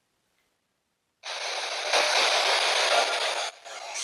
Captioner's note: static noise on radio